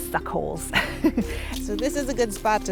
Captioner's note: laughs